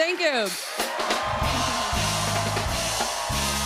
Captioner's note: cheers and applause